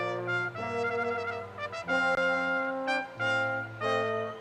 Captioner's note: none